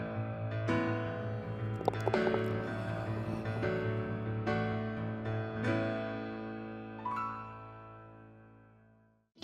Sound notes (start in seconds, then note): 1.6 ball rattling